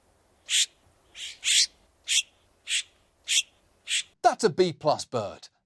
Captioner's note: chirping